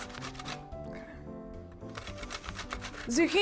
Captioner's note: grating sound